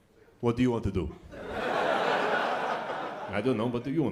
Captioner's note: laughter